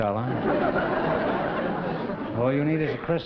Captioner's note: laughter